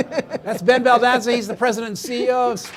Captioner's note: laughing; audience laughing